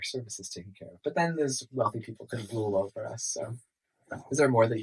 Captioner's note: sarcastically